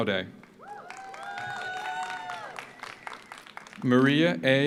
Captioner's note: audience applauds; audience cheers